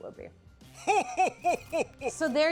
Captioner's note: Santa laughs